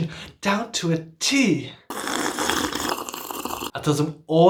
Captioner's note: sips tea loudly